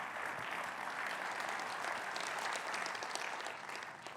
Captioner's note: audience applauds